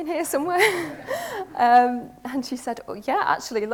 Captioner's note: audience laughs